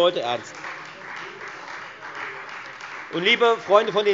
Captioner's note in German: Beifall Freie Demokraten